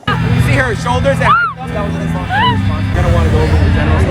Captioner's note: laughs; laughing